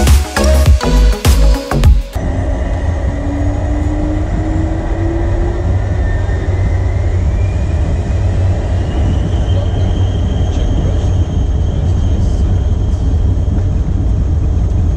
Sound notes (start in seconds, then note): 2.6 plane engines revving; 9.8 engine noise over pilots checking systems